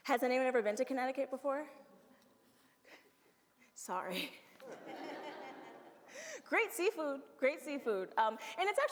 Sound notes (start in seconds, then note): 4.7 audience laughs